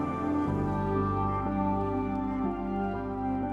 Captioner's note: phone vibrating